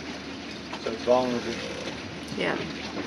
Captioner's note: voice muffled by boat sounds